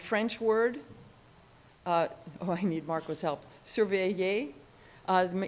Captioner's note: speaking in a foreign language